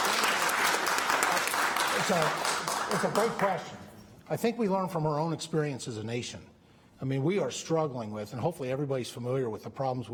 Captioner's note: applause